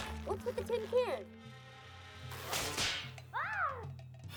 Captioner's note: snap! crash!